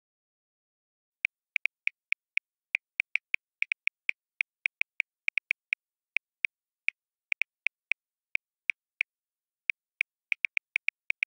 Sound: sound of smartphone

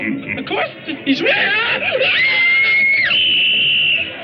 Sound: screams

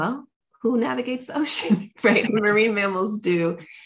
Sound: chuckles

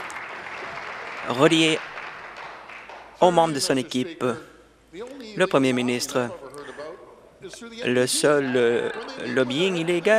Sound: applause

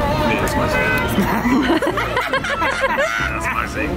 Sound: everyone laughing

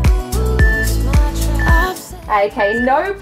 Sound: timer beeping

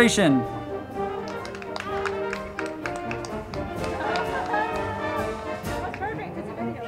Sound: band music; crowd clapping

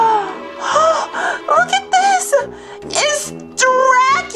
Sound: gasps

